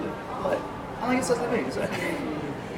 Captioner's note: laughs